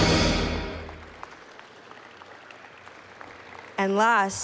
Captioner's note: applause